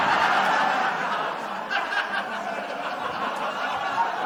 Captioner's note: laughter